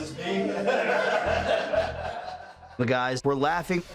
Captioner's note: inmates laugh